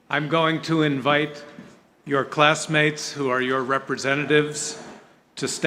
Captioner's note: none